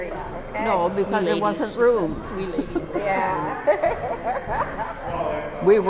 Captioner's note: laughter